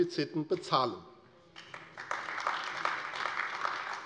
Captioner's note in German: Beifall AfD